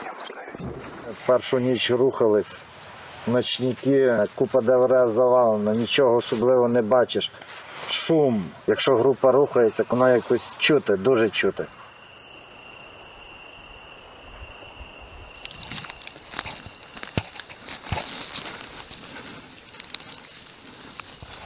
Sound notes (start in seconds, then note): 11.3 crickets chirping sound; 17.3 steps in the woods sound